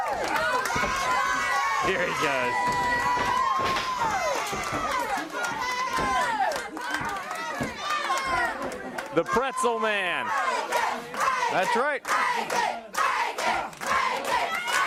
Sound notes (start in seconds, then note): 1.6 crowd cheering; 13.2 crowd cheering